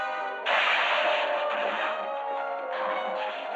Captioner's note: cart crashing